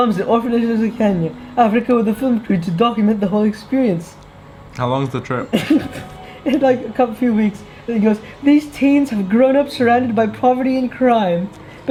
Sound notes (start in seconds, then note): 5.5 chuckles